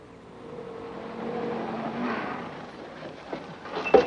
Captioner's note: jeep rumbles